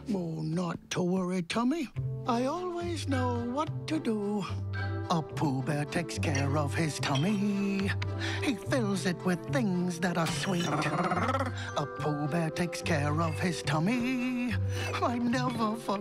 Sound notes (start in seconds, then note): 8.2 stomach growls